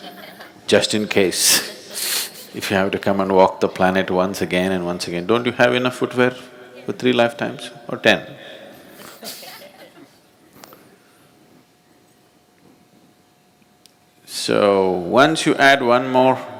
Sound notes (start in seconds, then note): 9.0 laughs